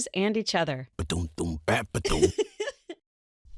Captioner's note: happy giggle